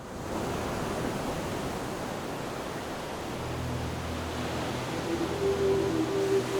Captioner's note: waves crashing; dreamy music